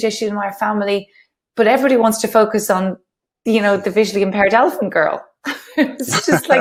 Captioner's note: laughs